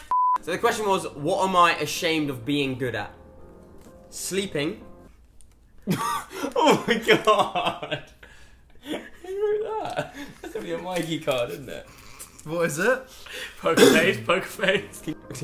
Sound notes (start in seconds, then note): 5.8 laughs